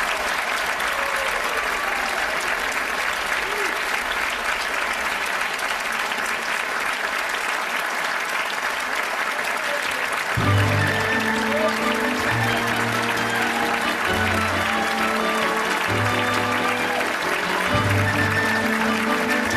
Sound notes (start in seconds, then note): 10.3 orchestral music; 10.5 audience applauding